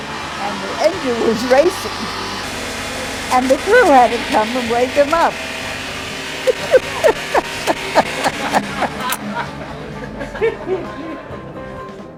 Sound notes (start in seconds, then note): 6.3 laughs; 9.1 laughter